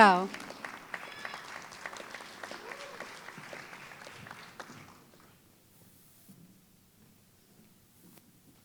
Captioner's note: applause